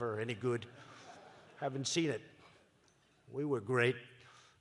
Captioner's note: laughter